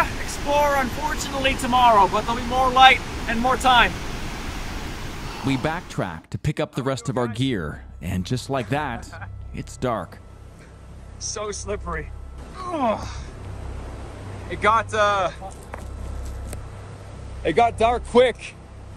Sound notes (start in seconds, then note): 13.2 grunts